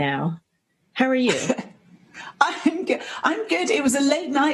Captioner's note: chuckle